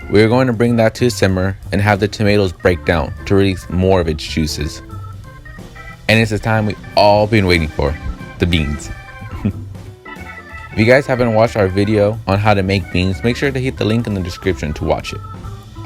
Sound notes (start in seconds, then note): 9.3 giggle